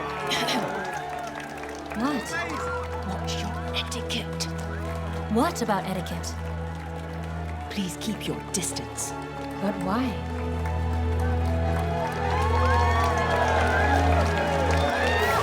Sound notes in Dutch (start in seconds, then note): 0.3 Gravin Voss hoest; 12.7 publiek juicht